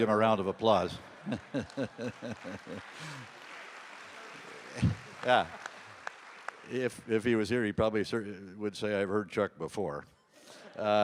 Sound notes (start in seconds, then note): 0.5 audience applauding; 1.2 laughs